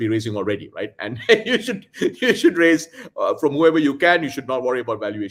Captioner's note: laughs